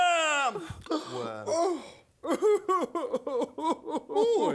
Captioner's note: retreats, sobbing